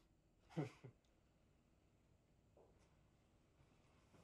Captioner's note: Ben chuckles